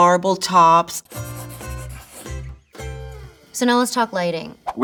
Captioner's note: graphic scratching; upbeat music